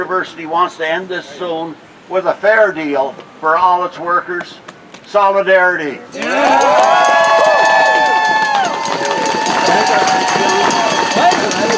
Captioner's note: applause